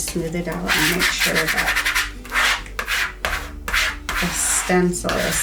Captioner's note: tool swishing